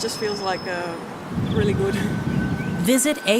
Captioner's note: BUS pulls up